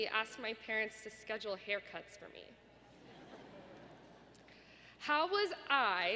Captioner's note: laughter